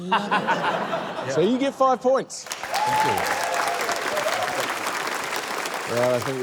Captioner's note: laughter; cheering, applause